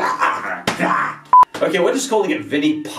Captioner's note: beep